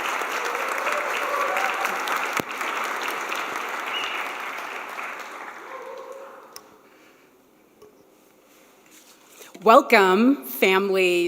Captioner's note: applause